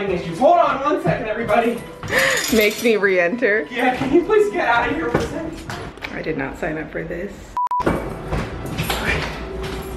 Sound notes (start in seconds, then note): 2.3 laughing; 7.6 beeping; 8.8 sighing